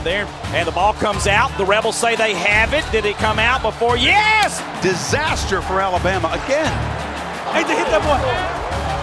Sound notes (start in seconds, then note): 4.9 voiceover